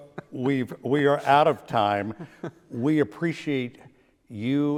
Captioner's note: laughing